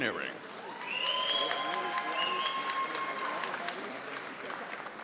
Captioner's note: audience applauding